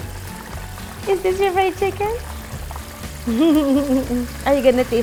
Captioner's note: laugh